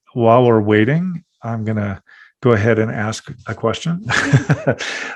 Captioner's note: laughing